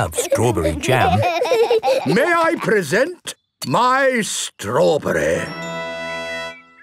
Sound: laughing

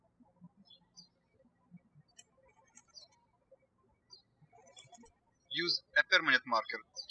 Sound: birds chirping

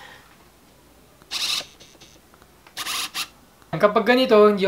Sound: autofocus motor sound

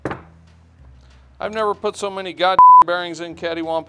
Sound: beep

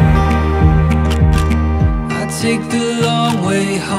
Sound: camera shutter snaps

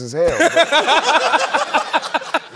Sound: laughter

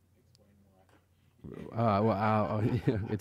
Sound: laughing

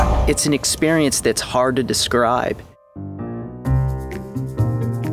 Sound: voiceover

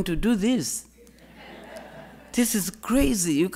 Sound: audience laughing

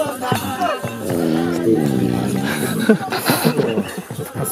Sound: gorilla farts

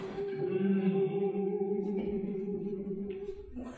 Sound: playing tone on a pitch pipe; all humming

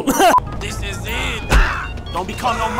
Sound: smack

